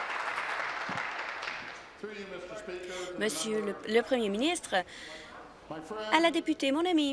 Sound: applause

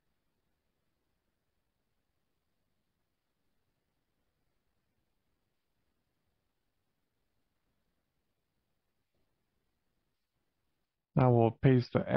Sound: silence

